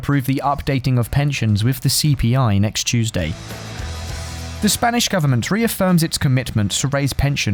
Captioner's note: Spanish